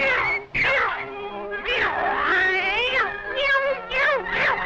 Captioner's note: cat meowing angrily